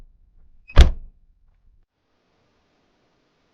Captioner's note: car doors closing